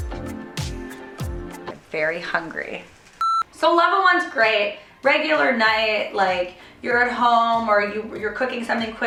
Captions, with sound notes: Very hungry. (beep) So level one is great. Regular night. You're at home or you're cooking something